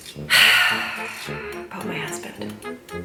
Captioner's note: sighs